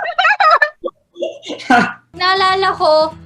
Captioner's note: laughing